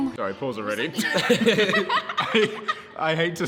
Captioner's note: group laughs